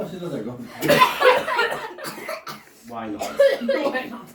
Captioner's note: audience laiughs